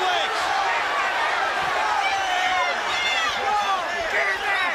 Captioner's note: crowd cheering